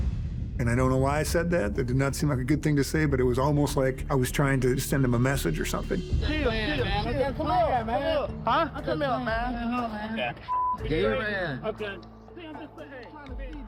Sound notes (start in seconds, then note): 5.8 all shouting; 11.9 indistinct chatter